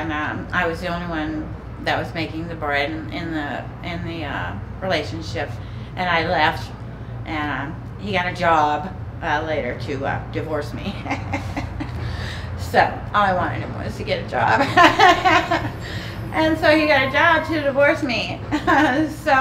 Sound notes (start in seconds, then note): 10.9 chuckling; 14.4 laughing